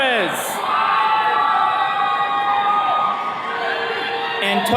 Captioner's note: attendees cheering